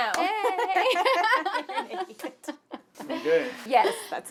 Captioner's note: laughter